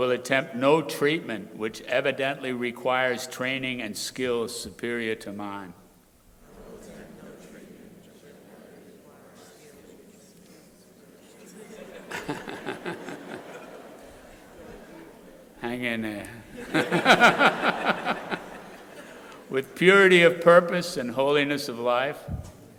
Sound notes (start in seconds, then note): 6.4 crowd repeating; 12.4 crowd laughing; 18.4 crowd laughing